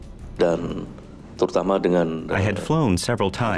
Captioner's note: speaking foreign language